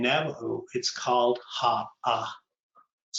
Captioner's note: speaking in Navajo language